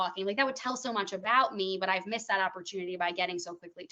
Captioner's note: none